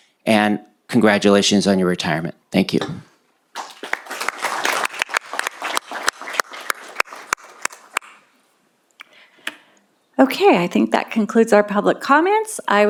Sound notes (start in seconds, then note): 3.5 applause